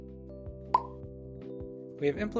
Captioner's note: pop